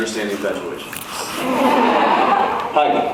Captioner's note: laughs